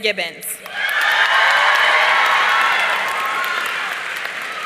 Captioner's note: audience cheering